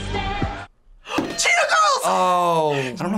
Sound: gasps

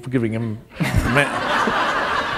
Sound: laughter

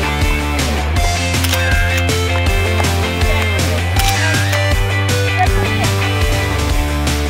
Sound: upbeat techno music; camera shutter clicking

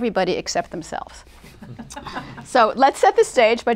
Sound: laughter

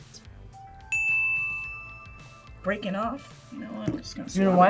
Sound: ding

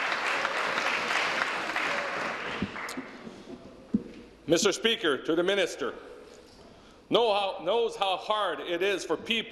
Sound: applause

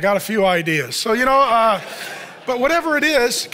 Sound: audience laughs

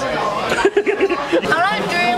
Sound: giggles; laughs

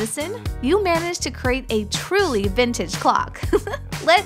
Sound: chuckle

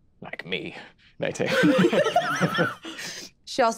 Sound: group laughing

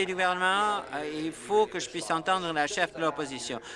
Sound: applause

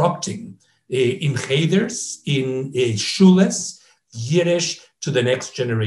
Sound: speaks in foreign language

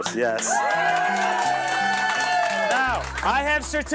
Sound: cheering

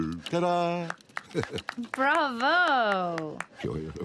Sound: applauds

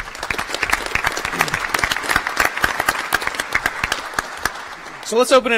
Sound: applause

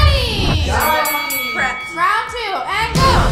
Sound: bell ringing

